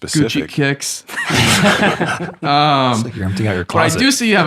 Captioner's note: all laughing